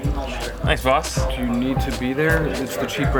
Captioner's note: voiceover